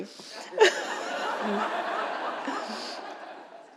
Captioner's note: laughter